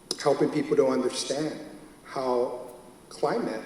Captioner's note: none